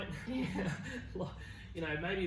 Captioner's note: both laugh